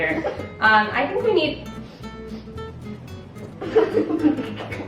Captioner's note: sniffing